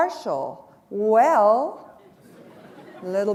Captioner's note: chuckle